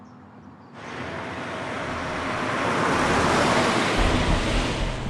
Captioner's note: car engine slowing; suspenseful music